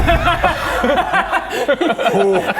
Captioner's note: unintimidated laughter